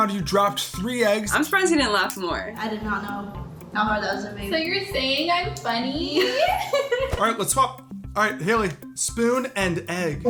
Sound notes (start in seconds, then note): 6.1 both laugh